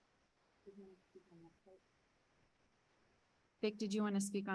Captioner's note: people chattering